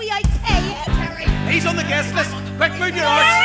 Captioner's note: crowd clamours